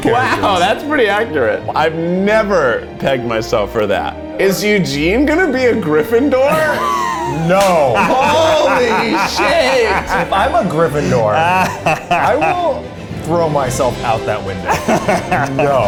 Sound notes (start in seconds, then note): 6.4 all laughing